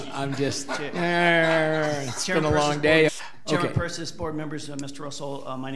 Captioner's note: board laughing